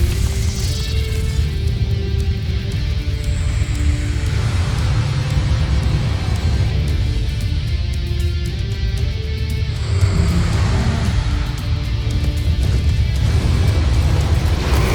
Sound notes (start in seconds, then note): 0.0 infernal whoosh-crackle; 3.5 flutters; 3.5 thuds, then rumbles; 9.6 screeching roar